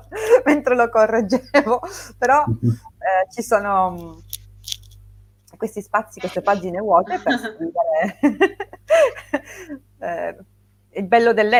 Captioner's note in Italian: risate